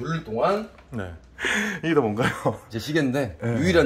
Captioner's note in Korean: 놀람